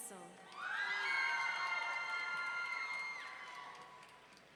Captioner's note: audience cheering